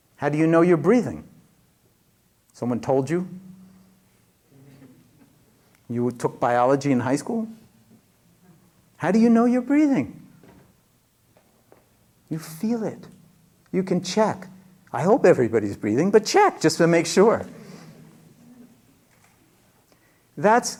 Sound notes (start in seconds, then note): none